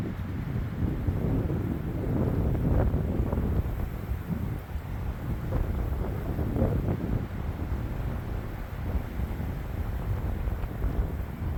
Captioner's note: wind howling